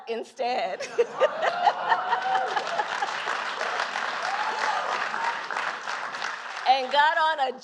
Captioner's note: applause